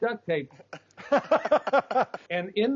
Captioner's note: laughs